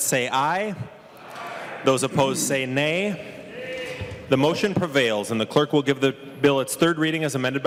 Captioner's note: chorus of ayes